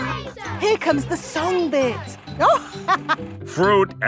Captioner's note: chuckling